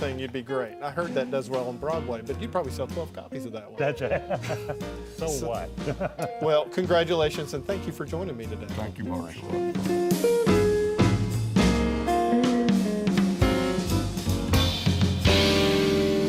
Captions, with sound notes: you'd be great. I heard that does well on Broadway, but you'd probably sell 12 copies of that one. - That's it. (laughing) So what? - Well, congratulations and thank you for joining me today. - Thank you Marshall. (jazz music)